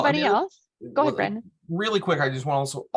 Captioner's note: laughs